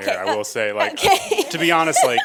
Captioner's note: laughing